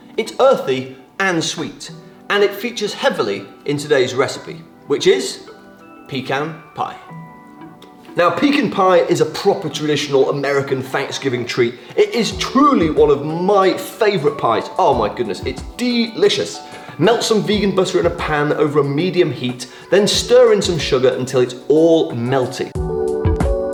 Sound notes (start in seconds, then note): 7.2 calm music; 7.2 nut crunches